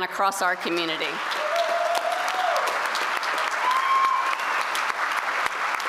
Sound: applause

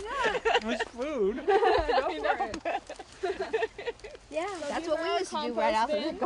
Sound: giggling

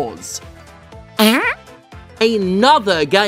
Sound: fart noise

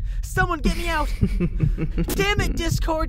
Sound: discord laughs

